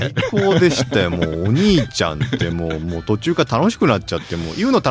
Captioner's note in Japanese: 笑い